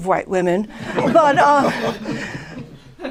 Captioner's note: laughter